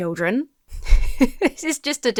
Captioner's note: chuckles